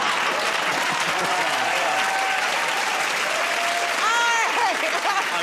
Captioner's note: cheering and applause; laughter; laughs